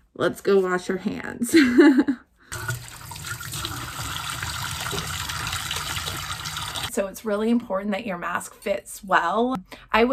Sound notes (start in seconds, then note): 2.3 laughs; 2.5 water running